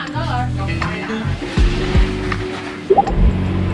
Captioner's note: Cantonese